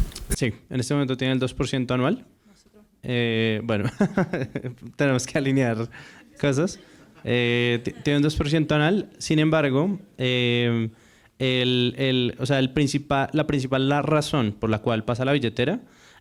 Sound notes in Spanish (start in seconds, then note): 7.2 risas